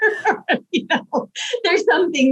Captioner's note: chuckles